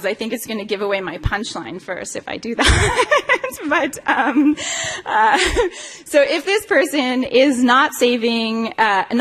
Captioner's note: laughs